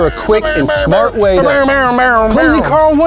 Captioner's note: man bickering